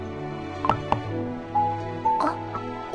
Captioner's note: knocking door